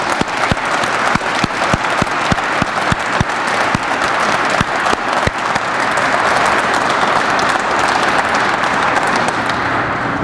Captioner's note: crowd applauds